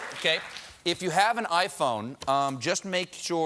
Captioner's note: cheering